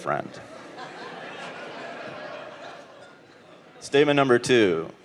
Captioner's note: audience laughing